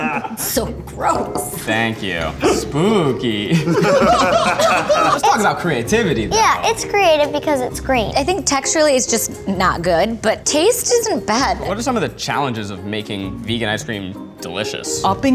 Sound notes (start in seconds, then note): 1.6 guys laughing